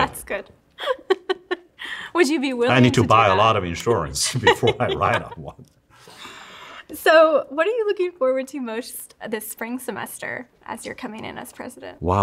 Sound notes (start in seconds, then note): 0.8 laughs